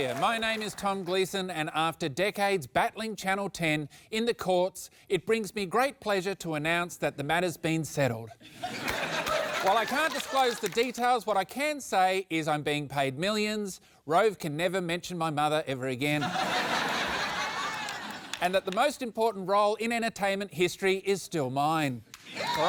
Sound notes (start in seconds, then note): 8.4 laughter; 16.2 laughter